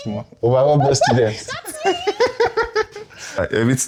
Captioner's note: laughs